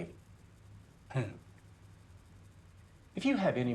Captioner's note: Mann chuckles